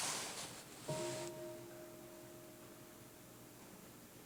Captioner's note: half bell